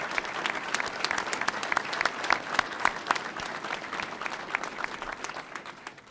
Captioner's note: audience applauding